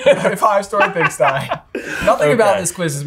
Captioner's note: laughing